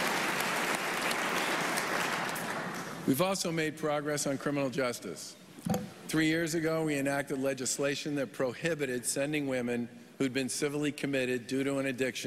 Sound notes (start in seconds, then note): 0.0 applause